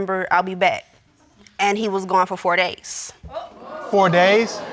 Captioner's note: audience exclaims